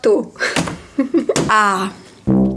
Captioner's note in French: rire